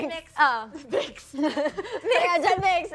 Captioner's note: chuckles